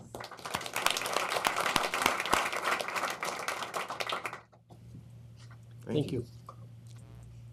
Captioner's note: applause